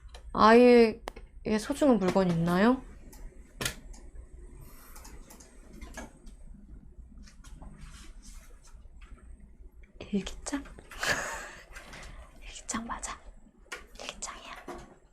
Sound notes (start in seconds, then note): 11.0 laughing